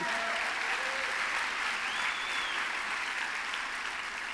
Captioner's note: applause